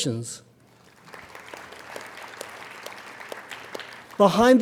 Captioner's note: applauding